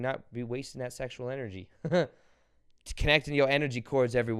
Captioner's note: chuckles